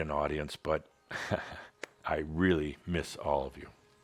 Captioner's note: Adamus chuckles